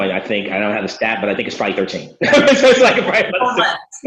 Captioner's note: laughs